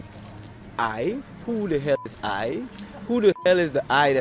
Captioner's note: beep